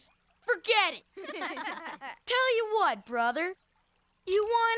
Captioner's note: laughing